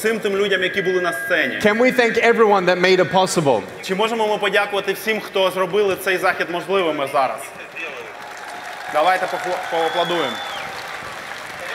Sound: applause

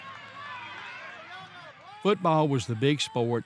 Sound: crowd cheering

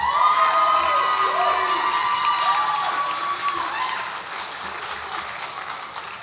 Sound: audience applauds and cheers

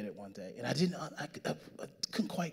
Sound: stammering

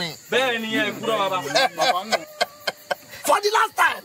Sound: Ekong laughing

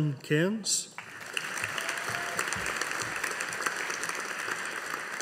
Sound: audience applauding

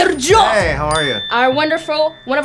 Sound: bell dings

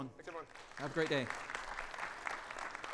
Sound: audience applauding

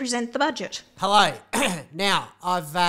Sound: clears throat

